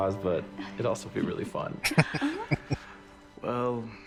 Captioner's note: chuckling